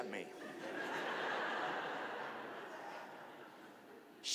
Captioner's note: audience laughing